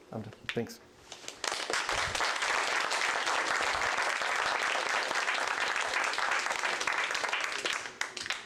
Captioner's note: applause